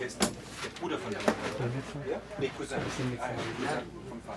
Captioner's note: arab spoken audio